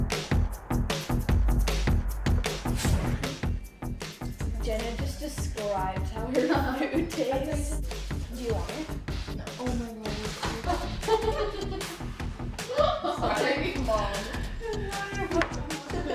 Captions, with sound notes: - Jenna, just describe how your food tastes. Do you want it? (giggling) - Thanks Mom.